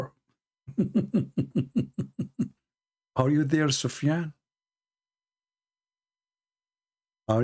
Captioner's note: Ketawa